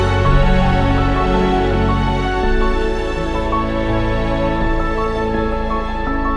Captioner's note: creek distant